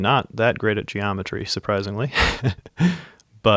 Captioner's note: laughs